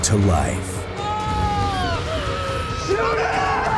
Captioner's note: screaming